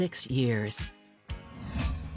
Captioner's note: air whooshing